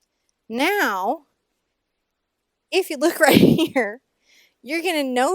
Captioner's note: laughing